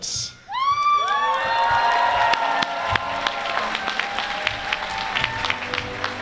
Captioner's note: applause